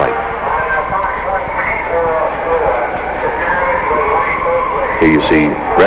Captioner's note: voice over a public address system is giving instructions